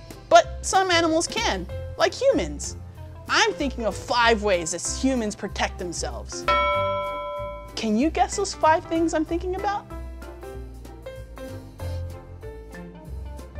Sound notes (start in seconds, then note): 6.5 ding